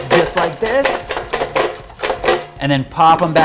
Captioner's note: drawer banging